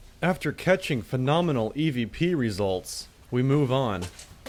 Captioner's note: voiceover